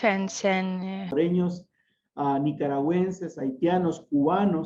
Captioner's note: speaking in Spanish